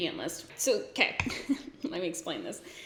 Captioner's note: giggles